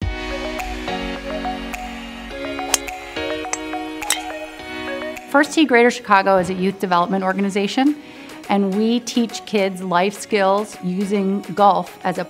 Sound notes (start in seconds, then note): 0.3 upbeat music; 4.0 club smacks